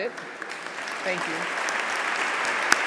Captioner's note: applause